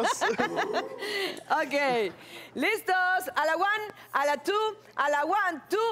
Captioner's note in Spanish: Risas